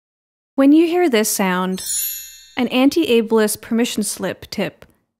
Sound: sparkle sound effect

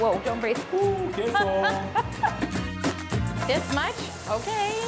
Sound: laughs

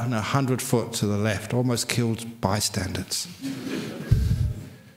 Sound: laughter

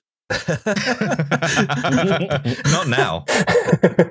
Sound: laughter

